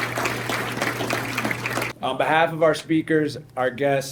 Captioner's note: applause